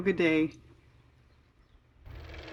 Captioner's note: car motor